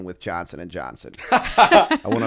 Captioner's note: chuckle